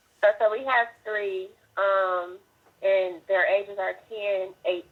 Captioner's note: phone Voice